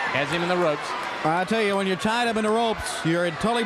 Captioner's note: crowd chatter